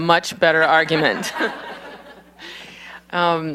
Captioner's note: laughter